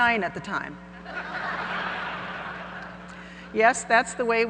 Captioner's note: audience laughing